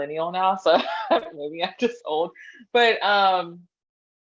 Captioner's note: laughs